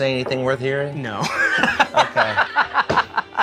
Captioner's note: laughs